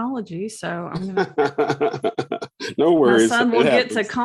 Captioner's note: laughs